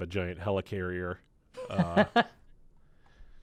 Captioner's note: chuckling